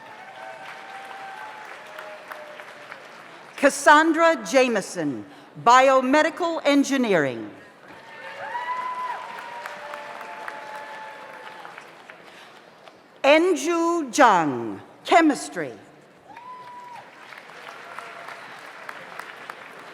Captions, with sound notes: (audience applauds) (audience cheers) Cassandra Jameson, Biomedical Engineering. (audience applauds) (audience cheers) Enju Jong, Chemistry. (audience applauds)